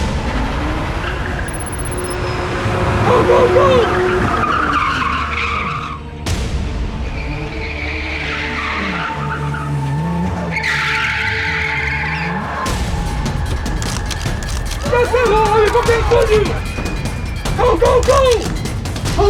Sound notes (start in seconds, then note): 5.0 car engine roaring; 5.0 car tires screeching; 10.0 solemn music; 12.6 suspenseful music; 19.1 people screaming